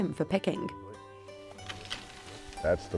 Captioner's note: sticks knocking rice